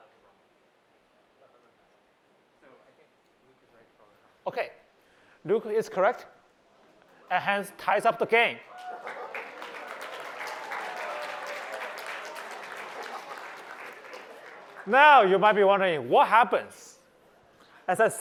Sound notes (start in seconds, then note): 8.7 applause